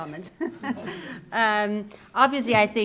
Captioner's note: laughs